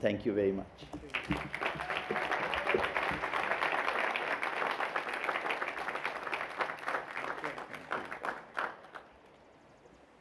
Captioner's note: applause